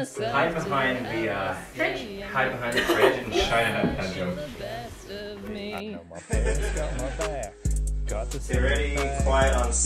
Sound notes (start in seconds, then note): 6.1 laughter